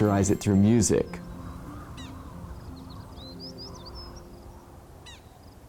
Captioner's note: wind sighing and birds chirping